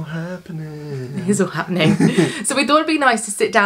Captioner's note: laughs